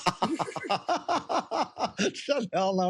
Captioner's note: laughter